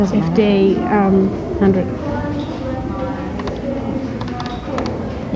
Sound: none

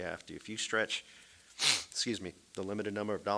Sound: sniffles

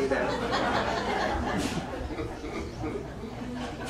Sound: audience laughs

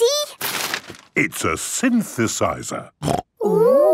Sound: snorting

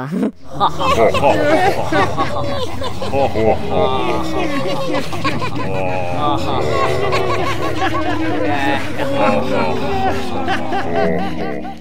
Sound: scary laughing

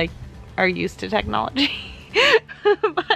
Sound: laughs

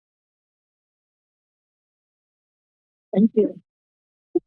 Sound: silence

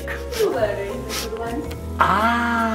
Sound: Dracula sniffing

